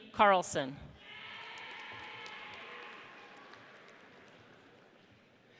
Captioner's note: audience cheers